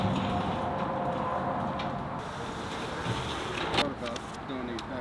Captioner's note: wind whooshing